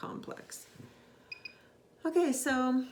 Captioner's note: machine beeps